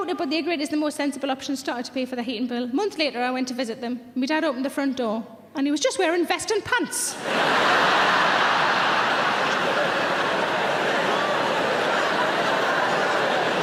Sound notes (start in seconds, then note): 7.1 audience laughs